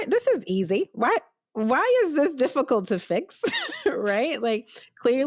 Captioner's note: laughs